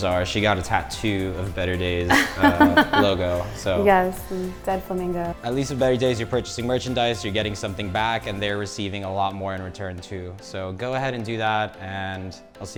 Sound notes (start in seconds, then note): 2.1 laughing